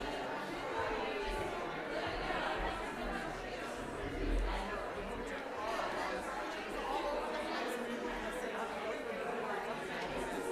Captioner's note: crowd noise